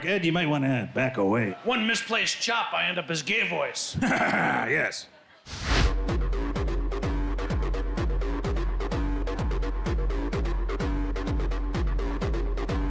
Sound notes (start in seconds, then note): 3.9 laugh; 6.1 dramatic electronic music